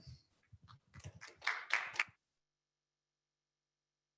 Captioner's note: applause